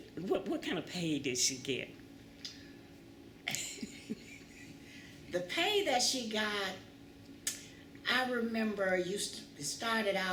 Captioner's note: laughter